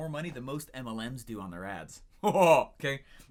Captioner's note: laughs